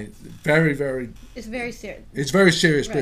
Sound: voiceover

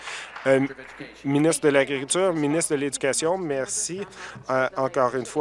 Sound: applause

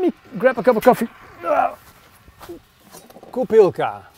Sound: groans; speaks Dutch

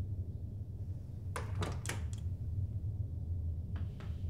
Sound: door clicks shut

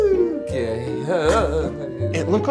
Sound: whimpers

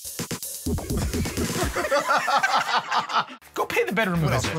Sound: laughter

